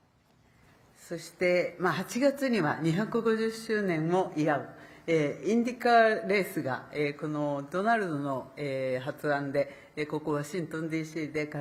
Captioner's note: speaking Japanese